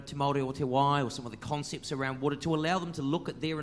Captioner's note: speaks in foreign language